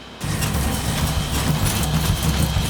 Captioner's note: percussion music intensifies; objects rattling; machine clunking